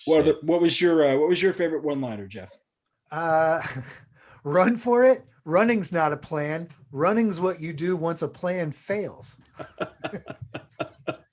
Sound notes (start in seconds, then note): 9.4 laughs